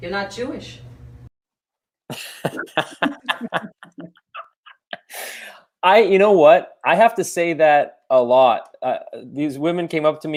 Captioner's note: laughter